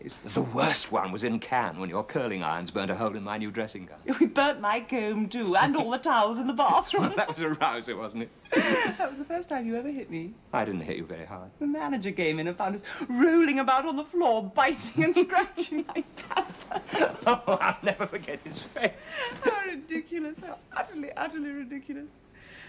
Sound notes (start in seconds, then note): 8.5 they laugh; 15.0 they laugh; 18.8 thay laugh